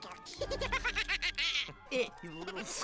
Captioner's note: heeheeheehahahaha